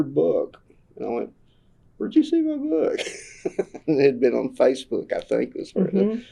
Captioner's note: laughs